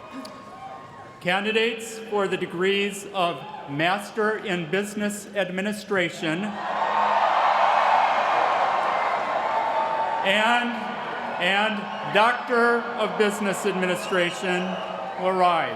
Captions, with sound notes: Candidates for the degrees of Master in Business Administration-- [CHEERING] --and Doctor of Business Administration will rise.